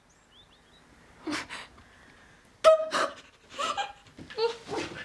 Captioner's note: Elinor sobbing